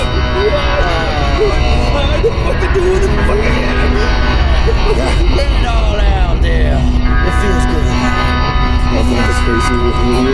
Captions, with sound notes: (laughing) What the fuck are you doing? (laughing) Let it all out there. It feels good. My mother's crazy with me.